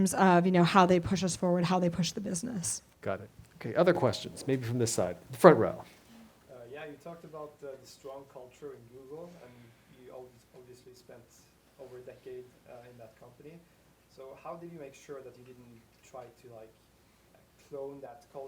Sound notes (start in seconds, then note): 6.9 voiceover